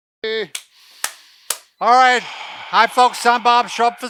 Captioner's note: clapping